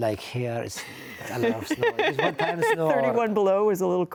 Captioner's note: laugh